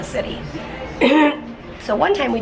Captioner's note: clears throat